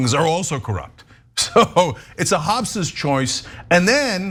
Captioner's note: laugh